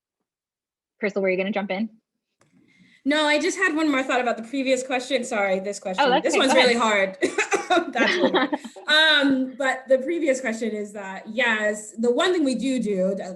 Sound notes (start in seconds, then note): 7.2 laughing; 7.2 coughing